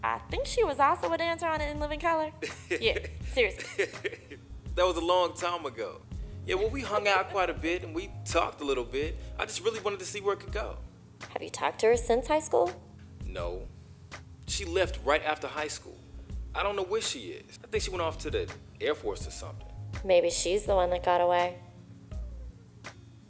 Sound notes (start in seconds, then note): 3.5 laughter